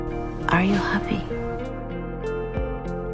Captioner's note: voiceover